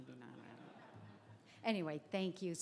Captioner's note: crowd laughs